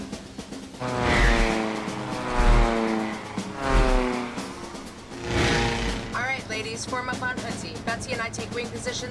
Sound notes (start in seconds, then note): 0.9 planes buzzing